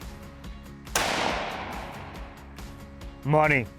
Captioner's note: rifle shoots